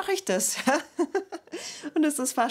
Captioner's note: she laughs